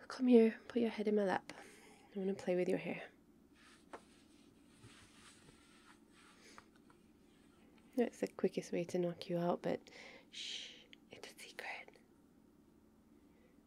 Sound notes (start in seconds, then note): 5.7 shuffly noises; 10.3 whispering